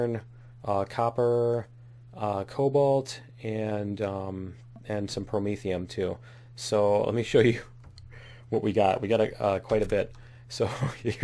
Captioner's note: laughs